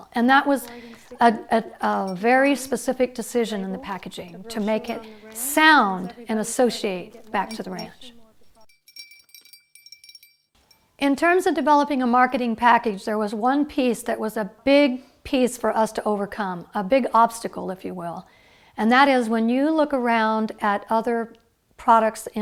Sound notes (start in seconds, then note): 11.0 bells ringing